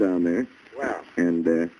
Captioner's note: on phone